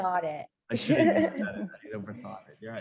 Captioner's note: laughs quickly